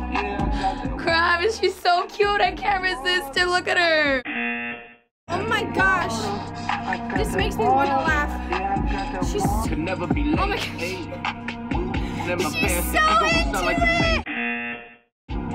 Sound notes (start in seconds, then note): 4.5 buzzer; 14.3 buzzer